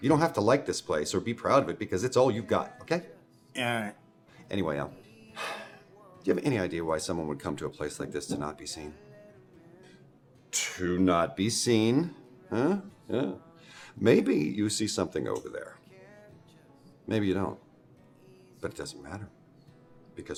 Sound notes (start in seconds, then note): 5.3 sighs